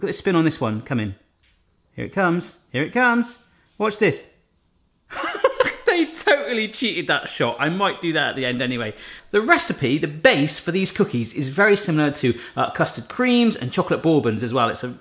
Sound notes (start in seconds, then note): 5.1 laughing